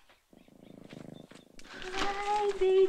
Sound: sighs; Dickens purring

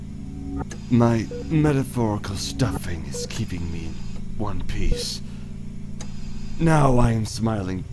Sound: mechanical ambiance

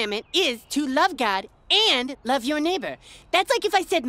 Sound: none

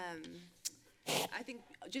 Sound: clicks tongue

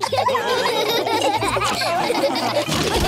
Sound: laughter

